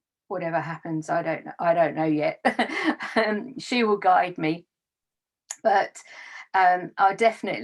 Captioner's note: laughs